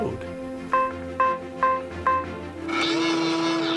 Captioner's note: machine beeping